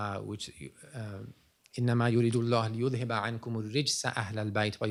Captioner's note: non-english speech